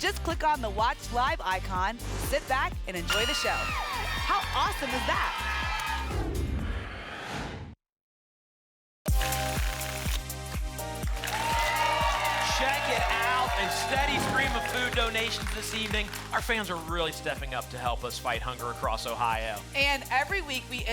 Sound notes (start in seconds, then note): 6.3 whoosh; 10.8 applause and cheering